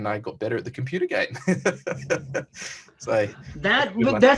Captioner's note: laughs